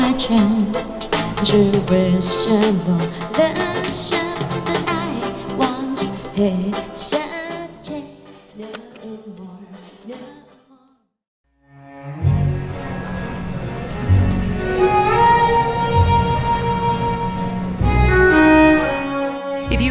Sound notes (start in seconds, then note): 8.7 sound of distant music and elevator door closing; 13.6 slow music